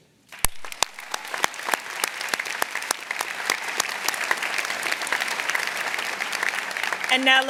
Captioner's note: applause